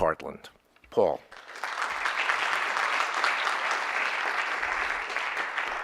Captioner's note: audience applauding